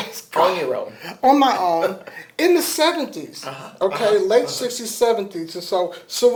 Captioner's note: laughter